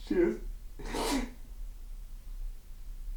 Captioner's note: David cries